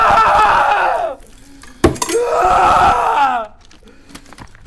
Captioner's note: screams; knife thuds